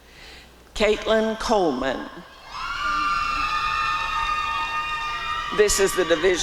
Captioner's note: cheering